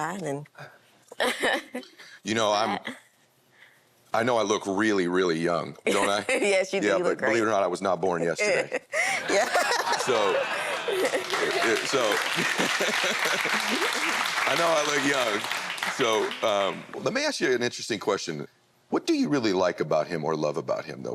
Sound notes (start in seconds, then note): 1.1 laughs; 8.9 laughs; 9.1 audience laughs